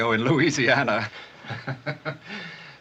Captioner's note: chuckling